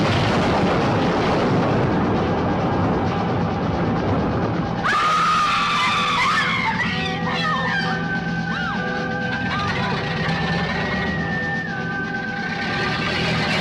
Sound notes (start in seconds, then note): 0.0 crash booming; 4.7 suspenseful music; 4.8 women screaming